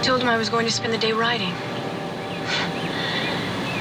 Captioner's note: scoffs